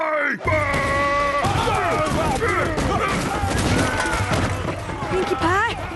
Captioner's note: growls and crashing